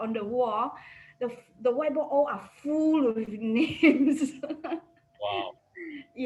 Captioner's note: laughs